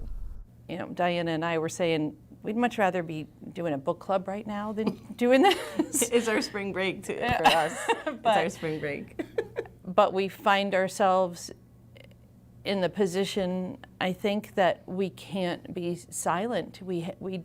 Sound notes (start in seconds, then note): 9.1 laughter